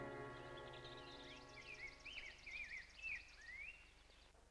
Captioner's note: birds chirping